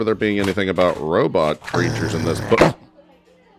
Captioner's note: book snarling